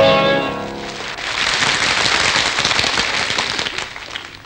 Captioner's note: applause